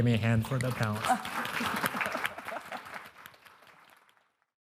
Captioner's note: audience applauding